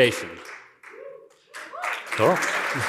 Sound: cheering and applause

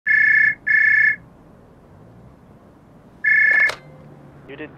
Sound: phone rings

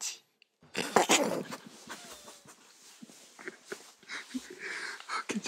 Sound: burst out in laughter

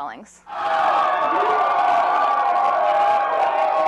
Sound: cheering

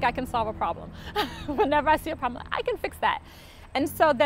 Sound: laughs

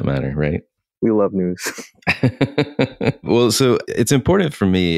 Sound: laughs

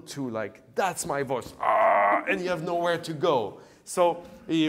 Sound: grunts

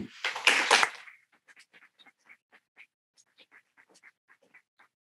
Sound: people clapping

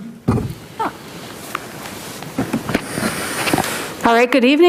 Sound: microphone thuds

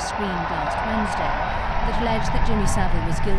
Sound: crowd cheering

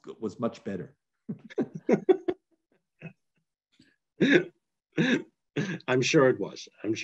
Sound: laughter

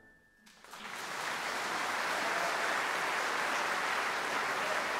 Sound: audience applauding

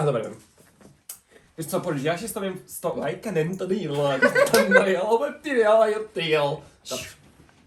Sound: speaks gibberish

